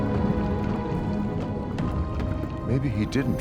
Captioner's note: dramatic music continues; liquid bubbling